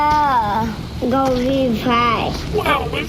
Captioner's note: baby talk; baby talk